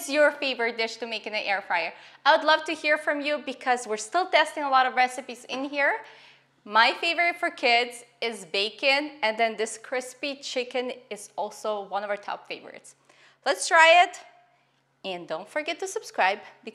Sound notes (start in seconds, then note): none